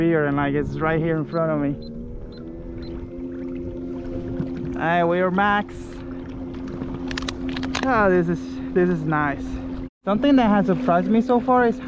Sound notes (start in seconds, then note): 0.8 motor revving; 1.2 beeping